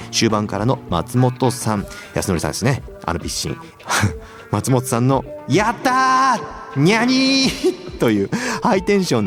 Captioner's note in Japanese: 笑い